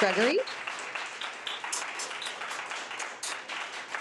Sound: audience applauding

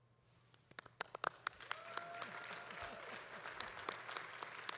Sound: audience claps

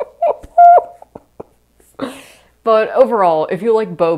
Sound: laughing

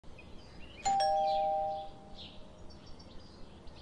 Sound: doorbell rings; birds chirping in the background

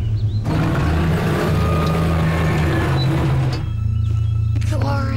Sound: rooster crowing; machines rumbling

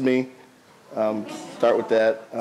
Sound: audience laughs

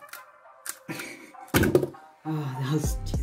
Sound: laughs

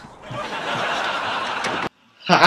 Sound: laughs

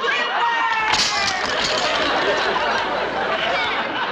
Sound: smashing

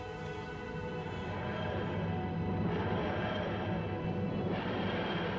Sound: TARDIS engines

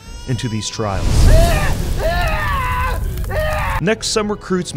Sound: baby screams

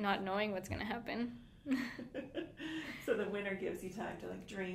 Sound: laughing

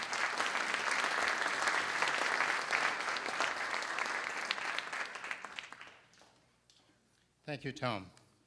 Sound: applause

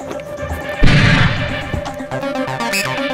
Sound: gun Shot

